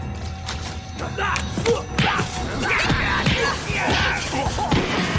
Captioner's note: grunting and groaning